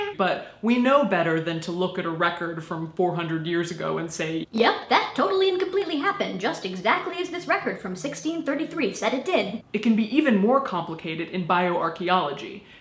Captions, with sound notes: But, we know better than to look at a record from 400 years ago and say [Chipmunk voice] "Yep, that totally and completely happened exactly as this record from 1633 said it did." It can be even more complicated in bioarchaeology